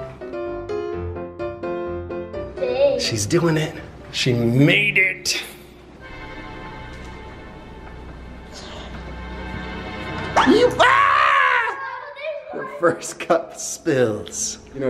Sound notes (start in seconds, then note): 5.2 tense music; 10.7 yells; 11.2 exclaims